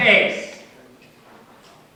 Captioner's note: background room sounds